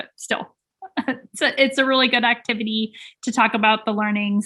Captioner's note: chuckling